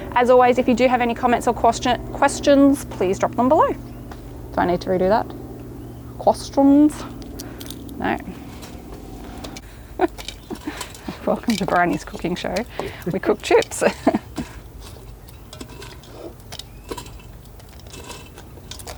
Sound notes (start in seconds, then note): 9.3 chuckling; 10.1 chips rustling; 13.7 chuckling; 15.6 chips rustling